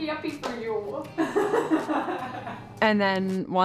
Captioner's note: laughing